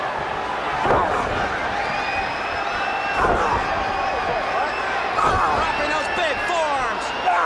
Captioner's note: crowd chatter